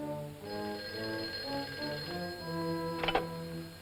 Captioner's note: phone rings